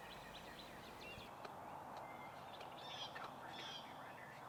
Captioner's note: nature sounds; birds chirping